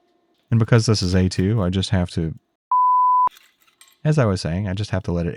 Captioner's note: beeps